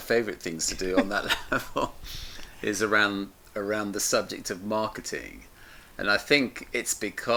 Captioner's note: laughs